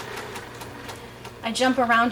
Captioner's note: sewing machine churning